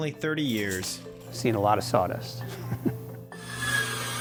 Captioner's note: laughs